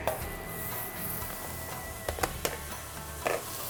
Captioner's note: sizzling